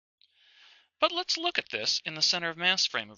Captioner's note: voiceover